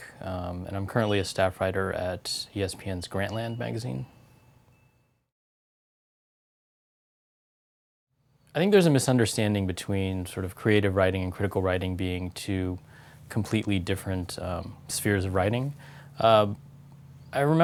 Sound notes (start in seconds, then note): 3.2 pause